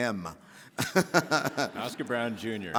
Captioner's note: Henry laughing